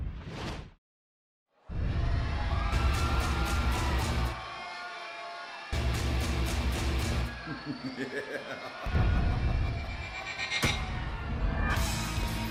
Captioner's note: crowd chatter